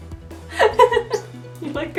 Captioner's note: laughs